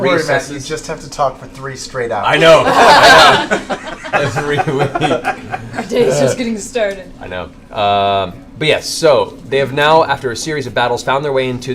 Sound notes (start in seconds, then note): 2.6 laughter; 2.6 laughs